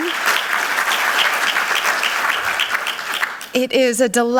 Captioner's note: audience applauds